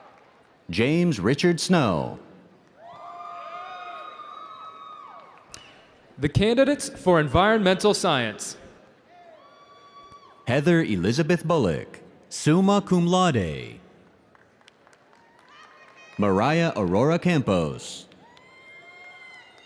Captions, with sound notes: - The candidates for Environmental Science. (audience cheering)